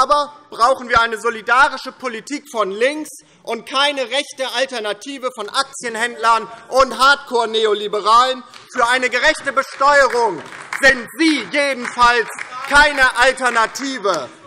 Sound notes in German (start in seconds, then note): 8.5 Beifall DIE LINKE - Zuruf AfD